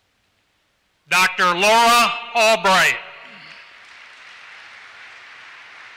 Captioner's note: applause